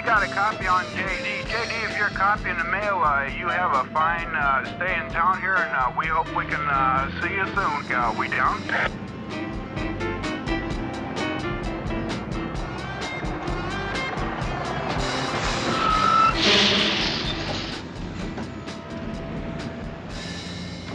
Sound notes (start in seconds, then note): 15.4 brakes squealing